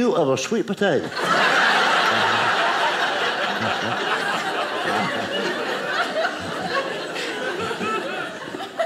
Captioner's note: audience laughing